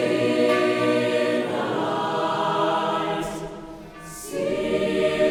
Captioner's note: bell tolls